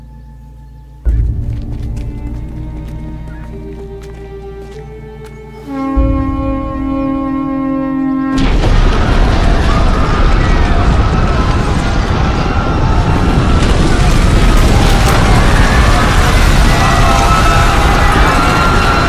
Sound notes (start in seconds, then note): 5.5 Huntsman blows a horn; 8.4 people screaming as lion turtle awakens